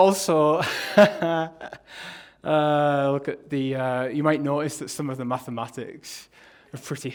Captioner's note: laughs